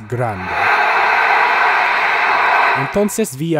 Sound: screaming

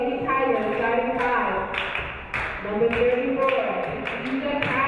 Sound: audience clapping

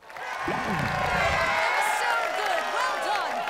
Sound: loud applause; alex cheers loudly

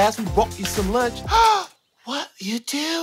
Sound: gasps

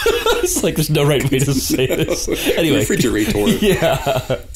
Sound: laughter

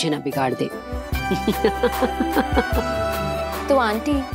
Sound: laughing

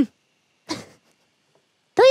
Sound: chuckles

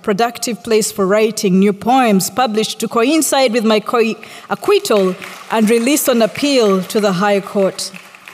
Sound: applause

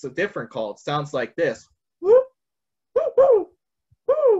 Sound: vocalizes

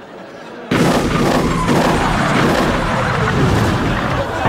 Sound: air whooshing

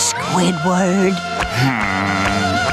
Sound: groaning

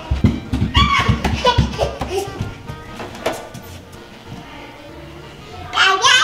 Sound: child giggling, speaking gibberish

